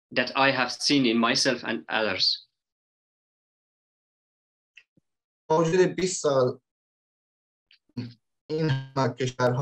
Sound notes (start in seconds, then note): 5.4 speaks in Dari